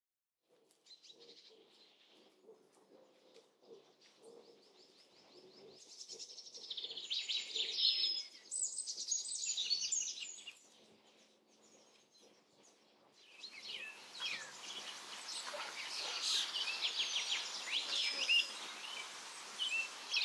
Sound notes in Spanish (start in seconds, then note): 0.4 trinos de pájaros; 13.3 sonidos de río, trinos de pájaros